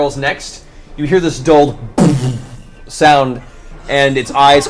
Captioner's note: muffled explosion